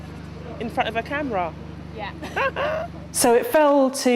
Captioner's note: giggles